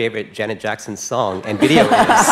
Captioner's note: laughter